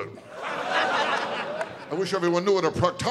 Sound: audience laughing

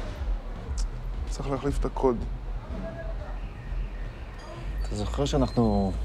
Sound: speaks in foreign language

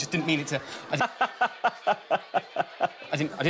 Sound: laughs

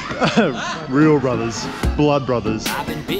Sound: laughs

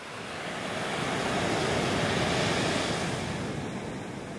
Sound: waves crashing

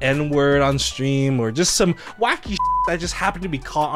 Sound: beep

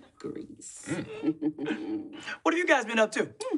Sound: chuckles

